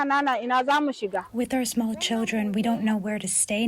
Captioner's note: through translator